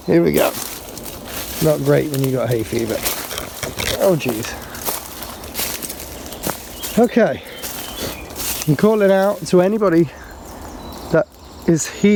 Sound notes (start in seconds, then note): 0.8 leaves rustling; 3.2 leaves rustling; 4.6 birds chirping; 4.6 leaves rustling